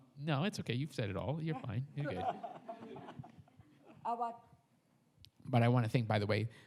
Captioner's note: audience laughs